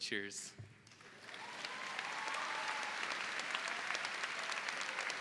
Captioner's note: audience applauds